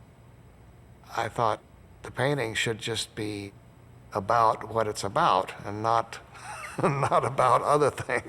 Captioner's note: laughs